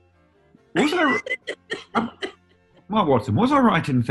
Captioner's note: laughing